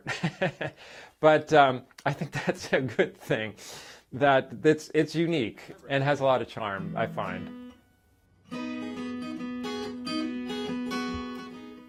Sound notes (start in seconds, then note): 3.8 laughter